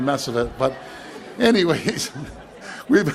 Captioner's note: chuckles